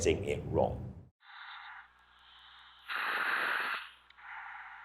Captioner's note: equipment fizzling